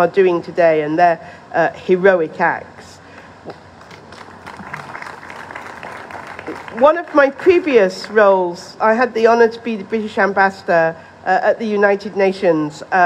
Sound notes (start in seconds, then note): 5.5 applause